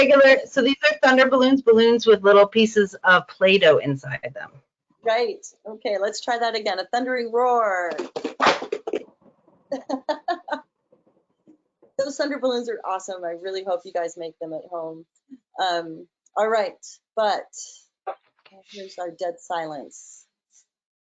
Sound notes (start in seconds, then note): 8.1 clanking; 8.1 laughing